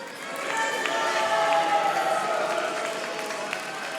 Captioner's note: audience applauding